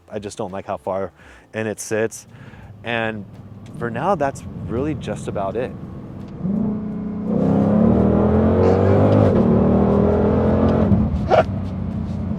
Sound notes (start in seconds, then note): 5.7 laughing